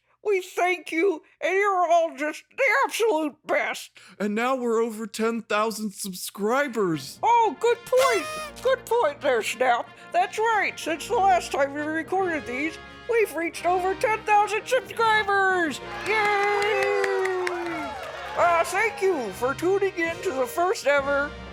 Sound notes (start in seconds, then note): 7.6 musical fanfare; 7.8 kazoo blows; 15.7 cheering